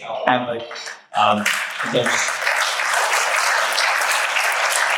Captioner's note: audience applauding